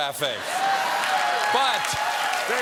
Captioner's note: cheers and applause